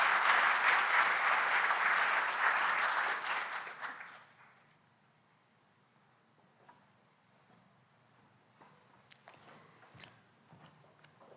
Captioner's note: applause